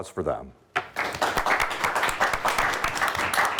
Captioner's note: applauding